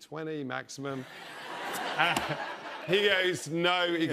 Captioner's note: laughter